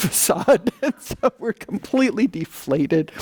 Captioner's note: laughing